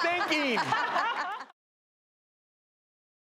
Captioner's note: hosts laugh